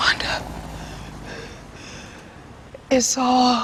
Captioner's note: hyperventilating